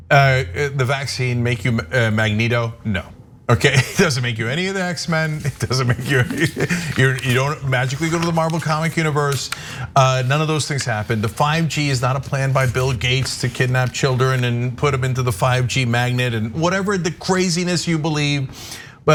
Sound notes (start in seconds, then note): 3.4 laugh